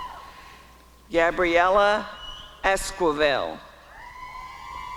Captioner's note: applause and cheering